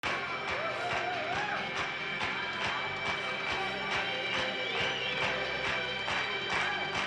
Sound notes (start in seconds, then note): 0.0 crowd clapping; 0.1 suspense music